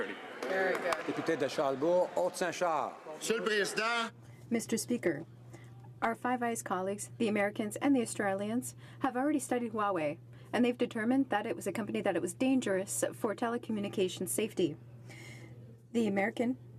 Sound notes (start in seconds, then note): 6.4 speaking French